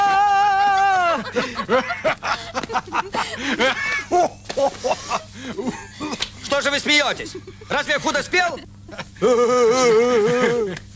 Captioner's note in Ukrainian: сміх